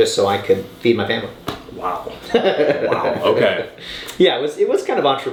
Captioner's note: laughing